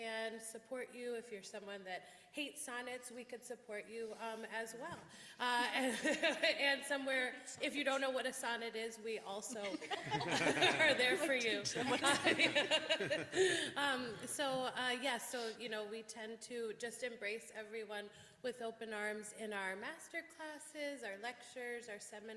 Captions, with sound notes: If you're someone that hates sonnets, we can support you as well. And somewhere -- if you don't know what a sonnet is, we also... (laughter) Are there for you. So.. . Yes. So we tend to just embrace everyone with open arms, in our master classes, our lectures, our seminars, our